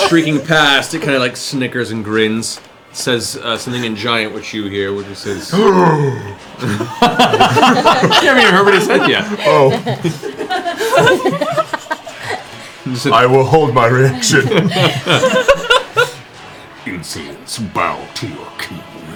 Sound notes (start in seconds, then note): 5.4 gasps